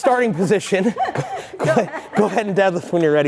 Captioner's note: both laughing